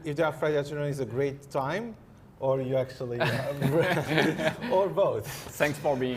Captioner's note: laughs